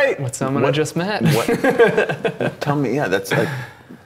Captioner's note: laughing